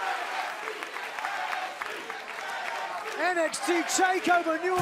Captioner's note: crowd cheering